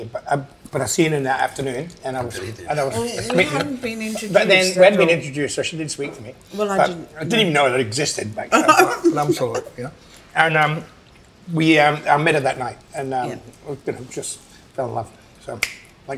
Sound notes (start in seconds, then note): 8.5 laughs